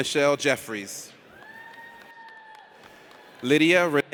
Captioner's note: audience cheers